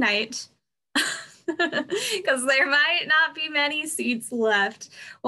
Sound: laughs

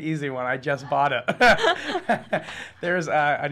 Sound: laughing

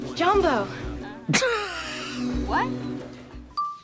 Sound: Trixie laughs

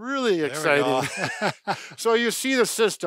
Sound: both laughing

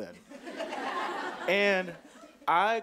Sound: audience laughing

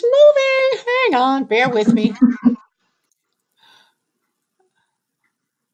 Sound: laughs

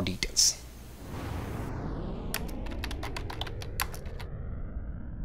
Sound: rocket blasting off

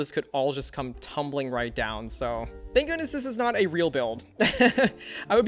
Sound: laughs

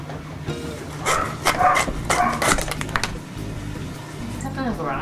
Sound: saw rasping

